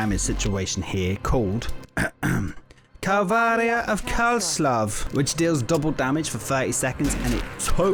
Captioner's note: clears throat